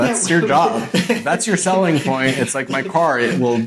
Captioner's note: laughing